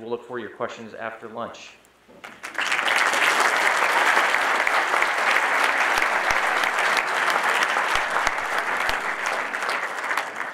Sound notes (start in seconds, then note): 2.2 audience applauding